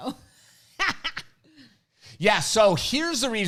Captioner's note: laughs